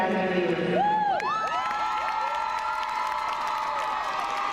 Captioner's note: crowd cheering